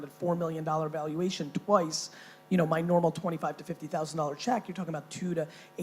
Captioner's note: none